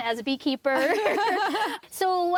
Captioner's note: laughing